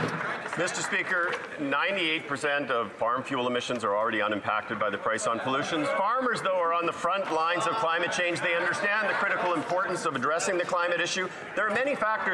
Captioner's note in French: voix de l'interprète